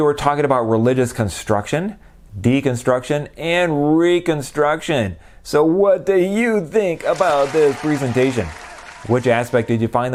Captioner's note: applause